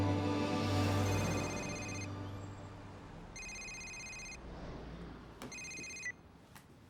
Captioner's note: phone rings